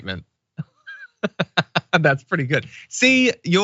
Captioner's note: laugh